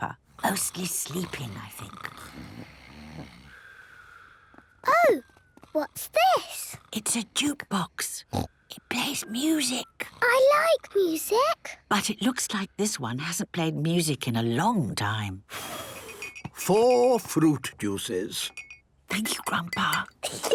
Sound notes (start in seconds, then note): 2.6 snoring; 7.0 whispering; 15.7 blows; 18.8 Granny whispering; 20.2 children giggling